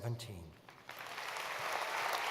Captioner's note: applause